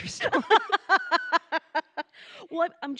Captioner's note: laughing